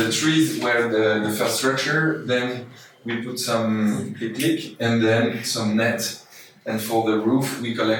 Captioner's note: click click sound